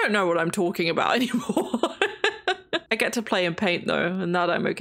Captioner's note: laughs